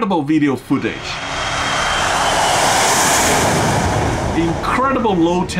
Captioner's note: plane engine roaring